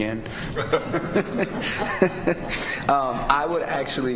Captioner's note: laughter